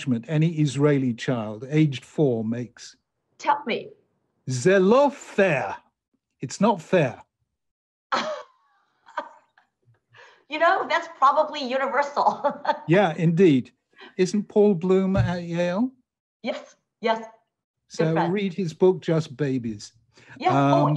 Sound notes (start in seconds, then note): 8.1 laughing